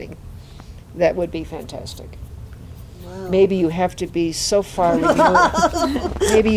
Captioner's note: laughter